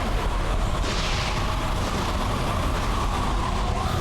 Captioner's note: lightning storm